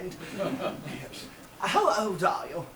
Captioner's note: audience laughs